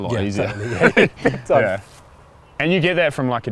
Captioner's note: laughs